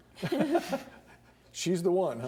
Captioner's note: laughing